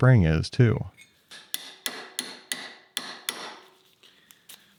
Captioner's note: hammer tapping